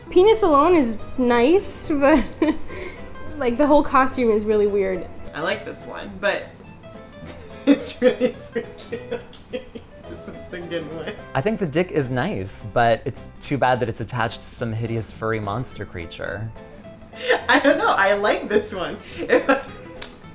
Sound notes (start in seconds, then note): 11.0 laughing